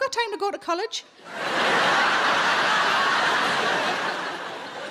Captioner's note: audience laughing